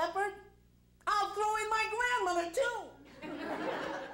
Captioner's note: crowd laughs